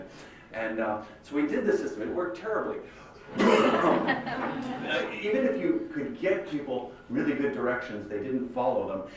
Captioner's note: laughter